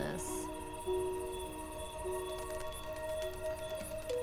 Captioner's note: crickets chirp